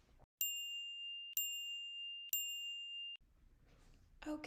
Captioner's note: chiming